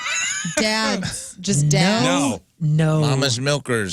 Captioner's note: laughing